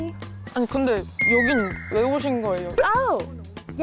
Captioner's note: curious sound effect